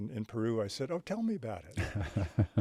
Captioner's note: chuckling